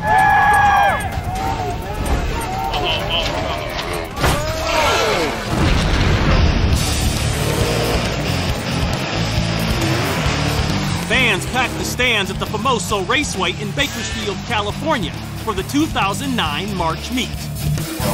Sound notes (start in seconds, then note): 0.0 cheers and applause; 3.9 glass shatters